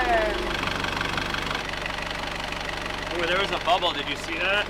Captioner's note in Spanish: Motor funcionando